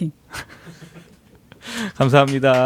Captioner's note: laughs